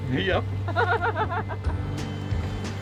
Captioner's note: laughs; upbeat music